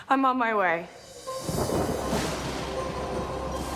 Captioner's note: thud sound